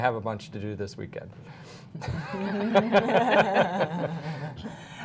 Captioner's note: laughter